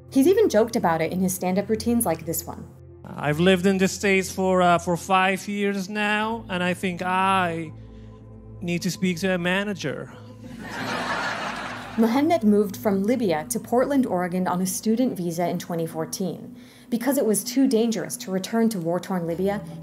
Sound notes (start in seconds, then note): 10.5 audience laughter